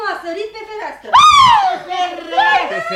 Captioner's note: the girl screams